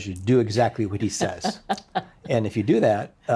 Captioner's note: laughing